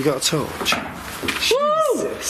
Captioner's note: thud